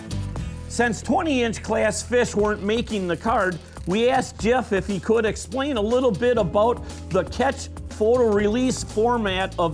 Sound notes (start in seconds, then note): 1.1 voiceover